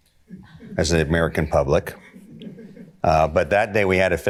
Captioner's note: smattering of laughter